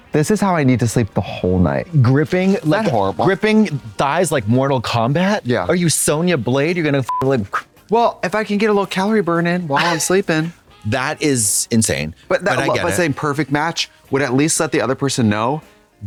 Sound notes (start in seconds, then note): 7.1 beep